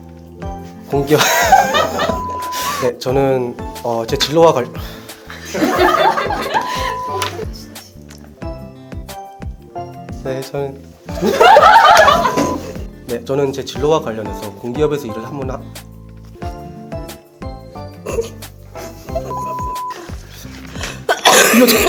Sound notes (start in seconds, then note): 1.2 laughing; 5.0 sigh; 5.4 laughing; 11.2 laughing; 17.0 laughing; 20.8 coughing